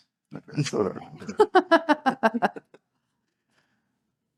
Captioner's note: laugh